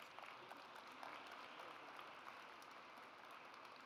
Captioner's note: audience applauds